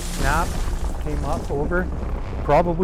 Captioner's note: tree falling